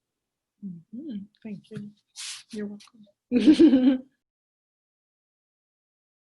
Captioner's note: chuckles